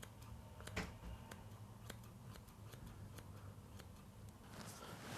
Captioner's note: comb clattering on the table; scissors snipping